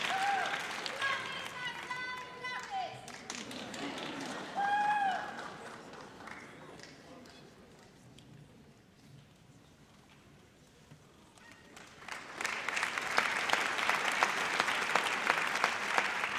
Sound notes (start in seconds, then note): 11.4 audience applauds